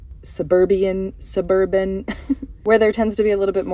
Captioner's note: laugh